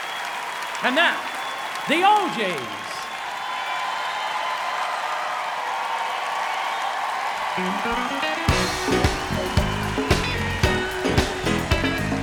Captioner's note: applause; cheering